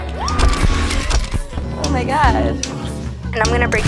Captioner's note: object snaps